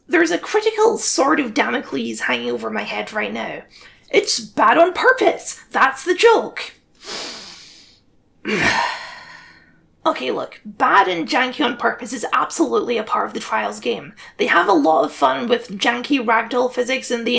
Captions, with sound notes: There’s a critical sword of damocles hanging over my head right now: “It’s bad on purpose! That’s the joke!” *huff* Okay, look, “bad and janky on purpose” is absolutely part of the Trials games, they have a lot of fun with janky ragdoll mechanics and